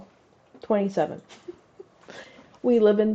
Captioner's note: giggle